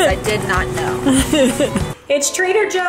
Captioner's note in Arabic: يضحك